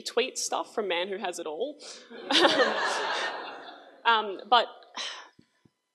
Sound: crowd laughs

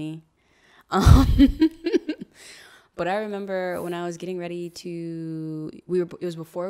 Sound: laughs

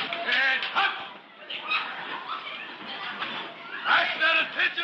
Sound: student commotion

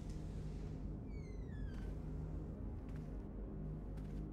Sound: door creaks open

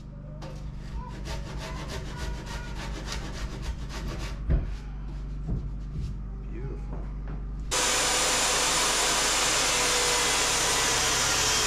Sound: drill whirring

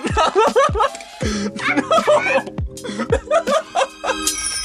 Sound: both laugh hysterically

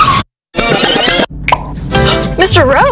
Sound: tires screech; tape rewind; pop

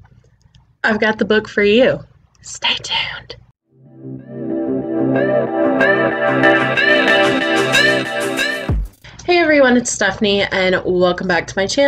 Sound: whispers

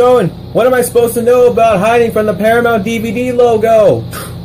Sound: mimics Slam

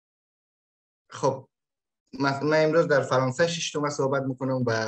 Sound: speaks in Dari

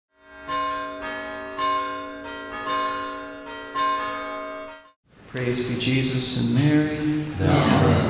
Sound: bells Tolling

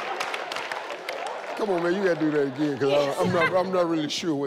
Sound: laughing

